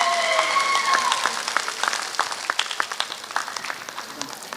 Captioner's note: applause